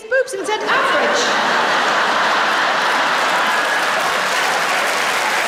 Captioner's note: laughter and applause